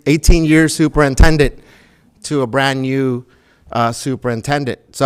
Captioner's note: none